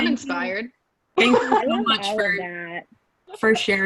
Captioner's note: laughs